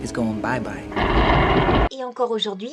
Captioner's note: dramatic lightning